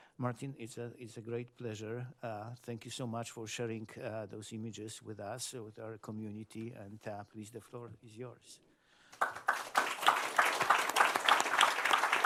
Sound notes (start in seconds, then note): 9.1 applause